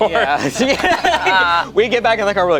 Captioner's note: group laughs